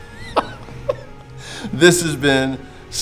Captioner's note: laughing